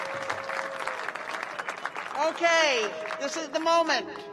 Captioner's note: applause